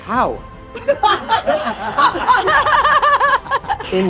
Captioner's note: all laughing